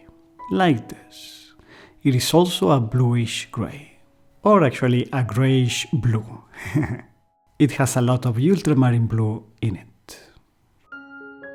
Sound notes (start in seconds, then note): 6.6 laughter